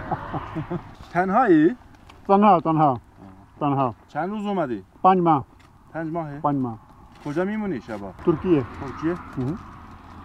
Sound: speaking in Persian

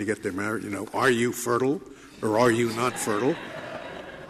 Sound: laughter

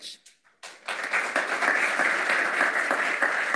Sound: audience applauding

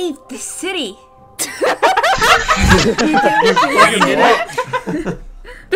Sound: laughter

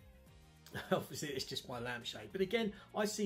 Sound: chuckles

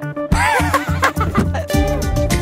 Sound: laughs

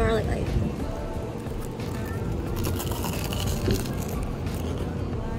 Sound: crunchy!

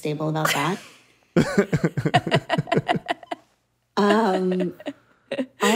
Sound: laughing

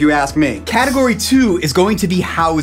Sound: graphics swish

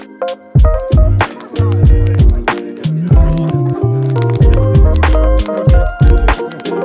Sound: fire crackling; people chattering

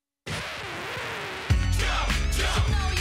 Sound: record needle scratching

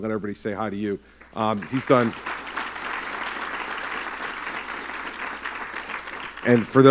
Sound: applause

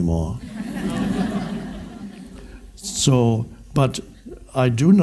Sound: audience laughs

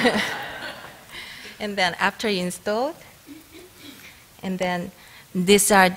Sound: laughter

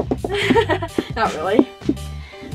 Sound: laughter

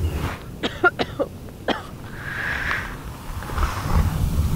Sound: Jane coughing

